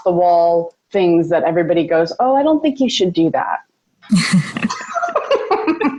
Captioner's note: laughing; laughs